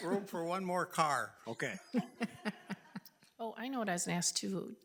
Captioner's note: board laughing